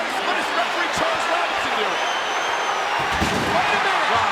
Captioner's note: overlapping chatter